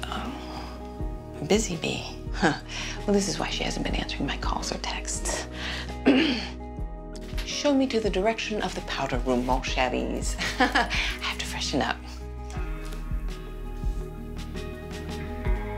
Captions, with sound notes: - Oh. Busy bee, huh? Well, this is why she hasn't been answering my calls or texts (clears throat). Show me to the direction of the powder room. (Colleen speaks in foreign language) I have to freshen up. (mysterious music)